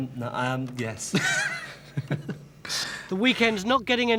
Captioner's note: laughing